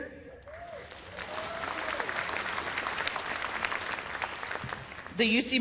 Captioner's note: cheers and applause